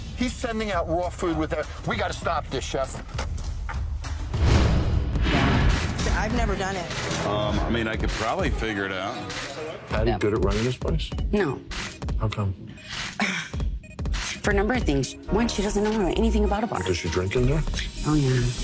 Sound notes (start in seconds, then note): 4.3 dramatic music; 13.1 sighing